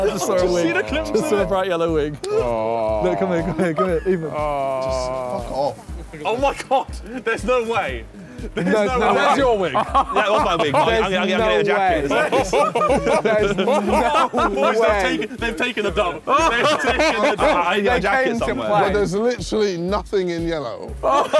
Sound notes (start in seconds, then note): 12.1 laughing; 17.9 group chattering; 21.0 all laughing; 21.1 group chattering